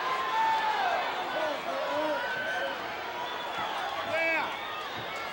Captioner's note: audience cheering